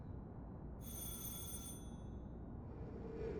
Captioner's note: doorbell rings